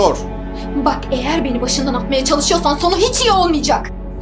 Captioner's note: shouting